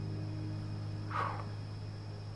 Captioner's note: exhales